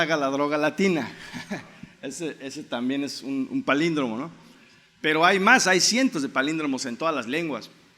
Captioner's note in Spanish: en español